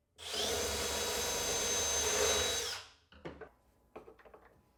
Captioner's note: tool whirring